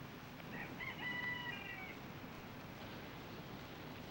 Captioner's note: rooster crowing